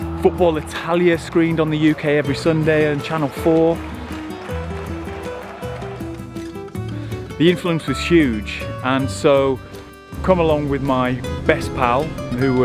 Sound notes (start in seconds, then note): 4.2 football fans cheering